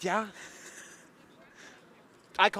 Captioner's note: chuckles